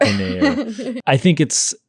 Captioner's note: laughing